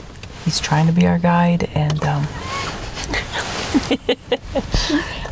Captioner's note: chuckles